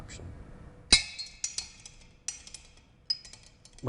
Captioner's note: clanging